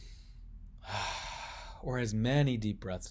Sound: exhaling

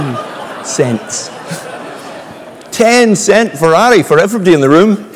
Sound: laugh

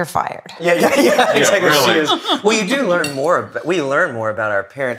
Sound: laugh

